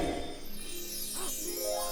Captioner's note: magic twinkles